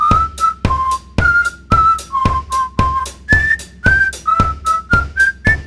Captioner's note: whistling